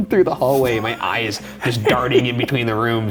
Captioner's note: laughing